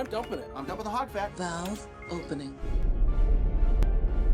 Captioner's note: computer Voice